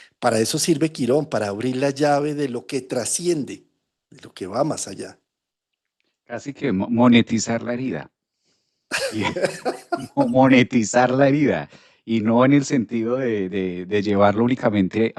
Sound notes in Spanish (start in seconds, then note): 8.9 risas